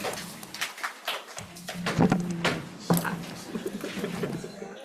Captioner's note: committee applauds